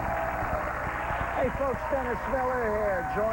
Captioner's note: applause